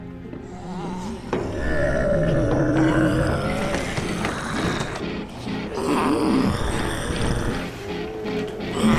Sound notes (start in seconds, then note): 0.4 zombies groaning; 0.9 footsteps clattering; 6.0 dramatic music